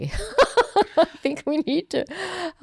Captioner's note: laughing